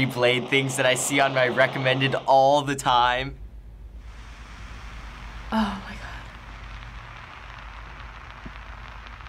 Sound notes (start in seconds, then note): 3.7 marshmallow sizzling; 5.4 breathlessly; 6.4 marshmallow sizzling